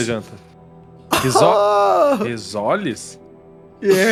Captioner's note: laughs